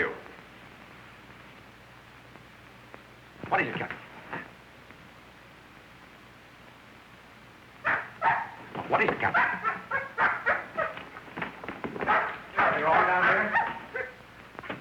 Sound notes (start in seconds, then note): 7.8 barking